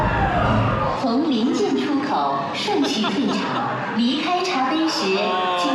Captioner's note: announcement in Chinese